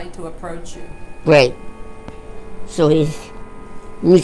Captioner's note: clock chime